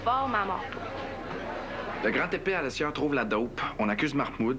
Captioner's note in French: none